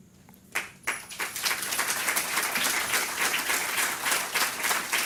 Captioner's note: audience applause